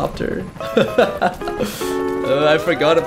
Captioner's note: painful laughter